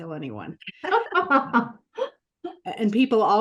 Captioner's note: laughter